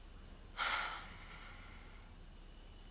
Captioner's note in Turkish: Nefes sesi